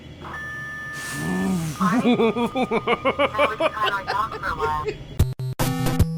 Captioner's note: is exasperated and laughs hysterically